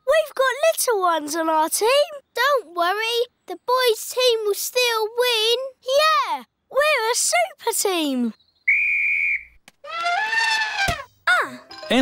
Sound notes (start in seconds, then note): 8.6 blows whistle; 9.9 trumpets